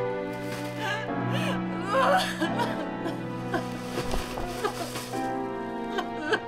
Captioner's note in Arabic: لورا تبكي